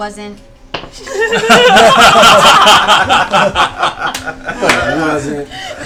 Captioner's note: laughter